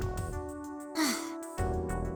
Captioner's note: weary sigh